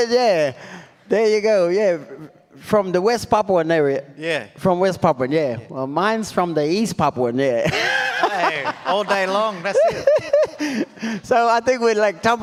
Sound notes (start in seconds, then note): 7.6 laughs